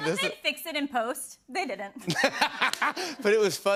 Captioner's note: laughter